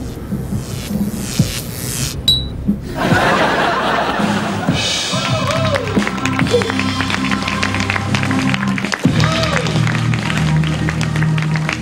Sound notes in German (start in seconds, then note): 0.0 Geknister; 4.2 Geknister; 5.7 Jubel